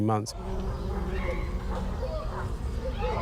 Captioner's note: children chattering